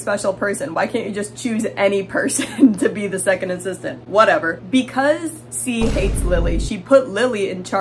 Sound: boom

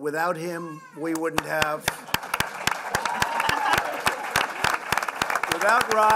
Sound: applause

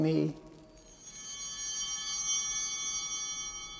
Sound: bell ringing

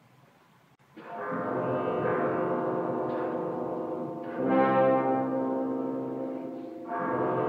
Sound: suddenly in the distance a bell is heard to strike

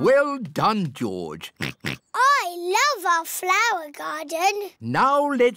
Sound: oinks

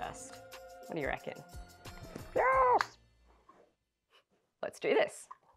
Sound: in funny voice "Yes!"

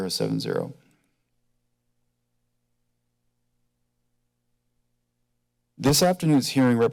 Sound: silence

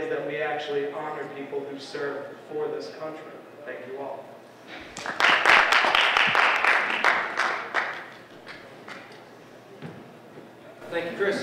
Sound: applause

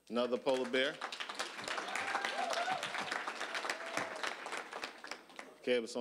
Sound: applause, cheering

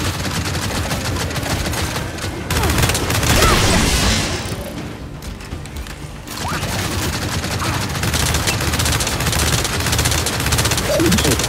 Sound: gunfire

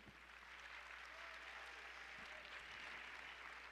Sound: applause

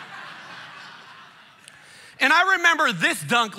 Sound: congregation laughing

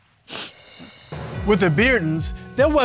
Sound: sniffles

